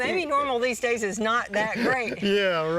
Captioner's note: laughing